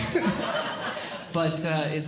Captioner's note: audience Laughing